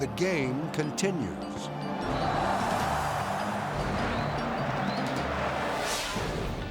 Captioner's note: edgy dramatic music; people yelling; dramatic whoosh